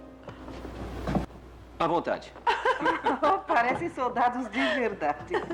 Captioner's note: laughs